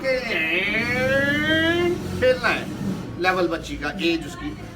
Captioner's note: making playful sounds